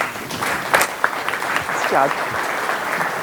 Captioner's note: audience applauds